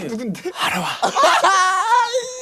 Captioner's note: cue crazy laughter again LOL!; sexy whisper